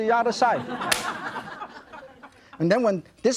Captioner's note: crowd laughs